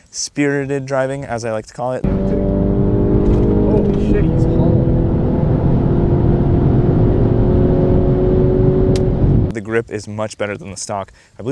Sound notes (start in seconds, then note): 2.0 engine shifting